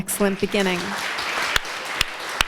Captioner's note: applause